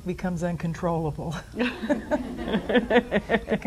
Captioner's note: they both laugh